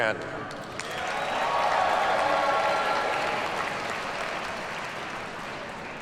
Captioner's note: audience cheers and applauds